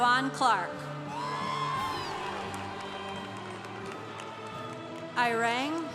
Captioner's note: congregation applauding